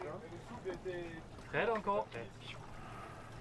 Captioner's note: crew speaking French